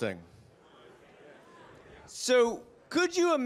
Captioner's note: participants chattering